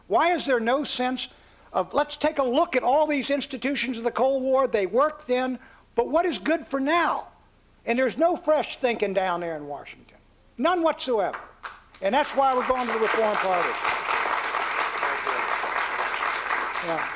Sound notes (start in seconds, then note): 14.0 applause